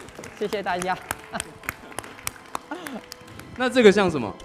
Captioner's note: applause